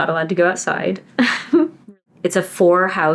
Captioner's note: laughs